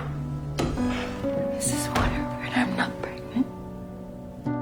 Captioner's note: voiceover